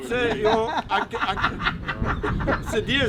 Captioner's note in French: rires